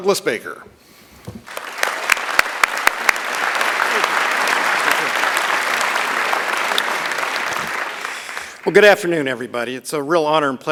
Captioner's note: applause